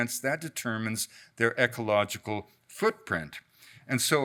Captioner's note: none